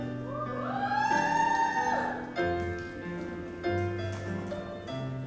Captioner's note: audience cheers